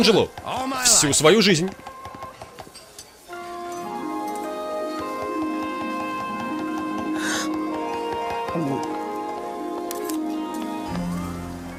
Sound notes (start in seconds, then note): 7.1 gasps; 7.2 gulps